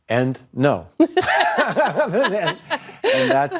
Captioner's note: laughter